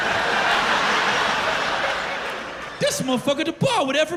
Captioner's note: laughter